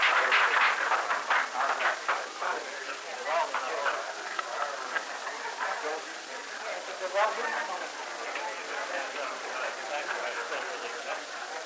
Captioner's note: background chatter